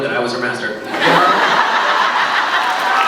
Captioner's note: laughs; laughs, cheers